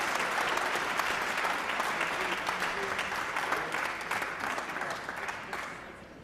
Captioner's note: applause